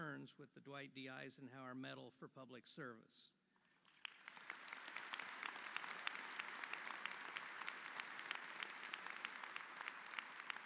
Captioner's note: applause